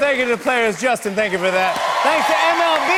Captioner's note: cheers and applause